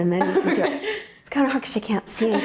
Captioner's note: laughing